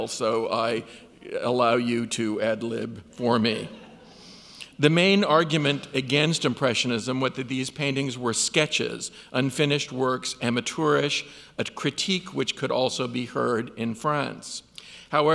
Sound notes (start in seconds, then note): 3.6 audience laughs